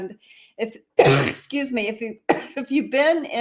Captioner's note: coughing